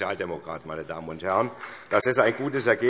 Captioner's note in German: Vereinzelter Beifall SPD